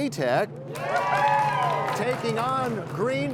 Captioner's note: cheers and applause